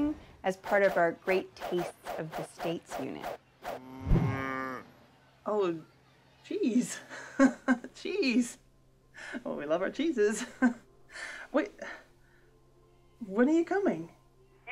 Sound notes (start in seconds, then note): 3.8 cow moos; 7.1 laughs; 11.0 laughs